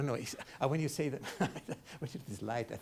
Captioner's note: chuckles